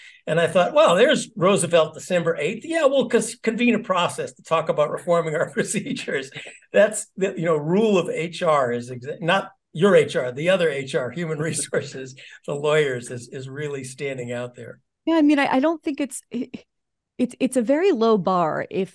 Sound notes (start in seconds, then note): 5.4 laugh; 11.3 laugh